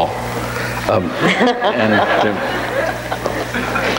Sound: audience laughs

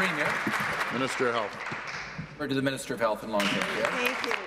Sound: applause

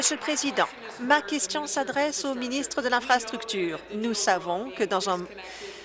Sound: applause

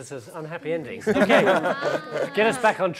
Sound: laughing

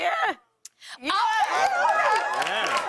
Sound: cheers and applause

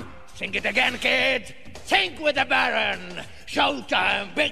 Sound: none

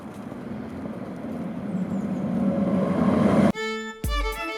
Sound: sound of a tram; dynamic music

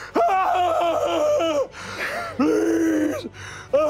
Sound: screaming

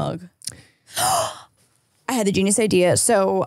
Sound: gasps

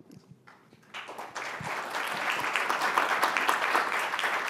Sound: audience applauding

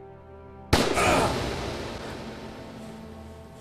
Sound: loud gunshot

